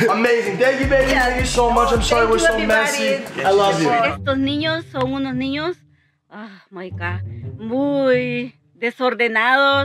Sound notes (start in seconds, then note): 4.3 speaking spanish